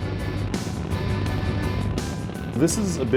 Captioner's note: rocket engines rumbling